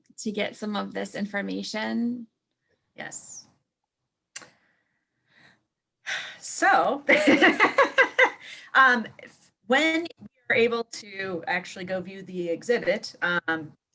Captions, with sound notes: to get some of this information. Yes. So [laughter] when you are able to actually go view the exhibit